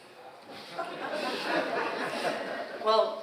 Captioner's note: audience laughs